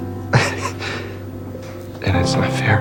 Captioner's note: Max laughs sadly